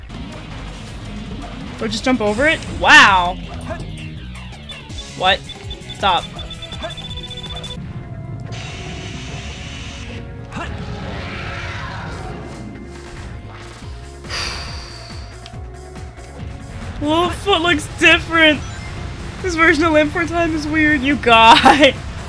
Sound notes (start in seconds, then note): 0.1 tense music; 6.4 timer beeps; 10.6 Biolizard roars; 14.2 exhales